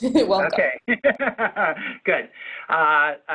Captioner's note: laughs